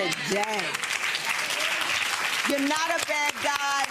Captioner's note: audience applause